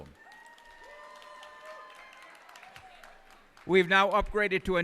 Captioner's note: cheers and applause